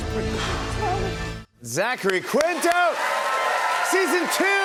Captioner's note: cheers and applause